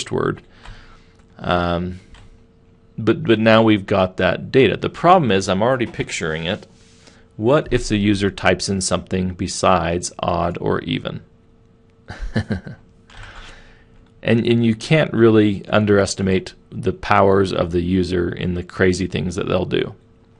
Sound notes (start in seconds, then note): 12.1 laughing